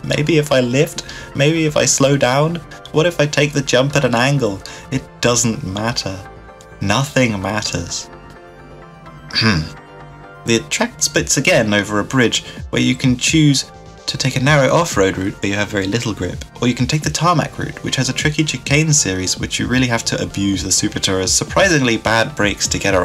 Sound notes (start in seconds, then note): 9.3 ahem